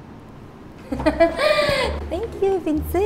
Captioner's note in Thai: หัวเราะ